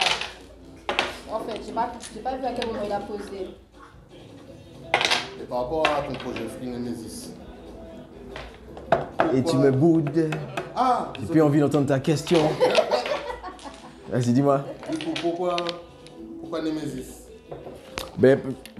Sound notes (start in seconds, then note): 12.3 laughs